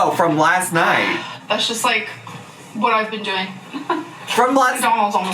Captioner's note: chuckles